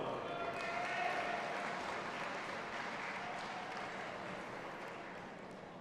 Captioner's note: audience applauding and cheering